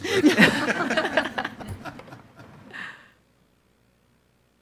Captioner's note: attendees laugh